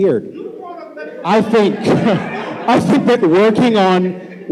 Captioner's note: shouting